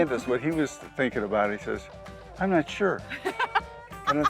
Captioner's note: laughs